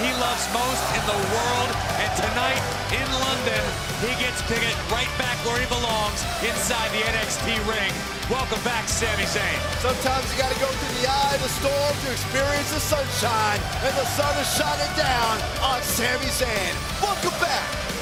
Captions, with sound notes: DO THE THING HE LOVES MOST IN THE WORLD, AND TONIGHT, IN LONDON, HE GETS TO GET RIGHT BACK WHERE HE BELONGS INSIDE THE NXT RING. WELCOME BACK SAMI ZAYN. >> [CROWD CHEERING] >> SOMETIMES YOU GOT TO GO THROUGH THE EYE OF THE STORM TO EXPERIENCE THE SUNSHINE, AND THE SUN IS SHINING DOWN ON SAMI ZAYN.